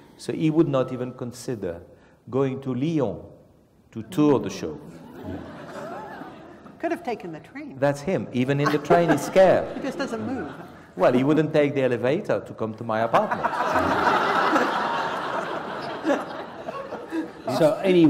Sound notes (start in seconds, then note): 4.9 laugh; 13.2 laugh